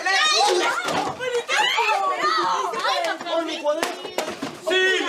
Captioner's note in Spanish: Gritos